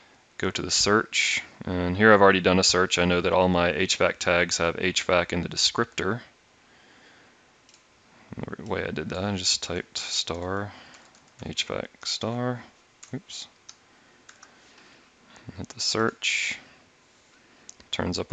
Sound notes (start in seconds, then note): 11.3 hvac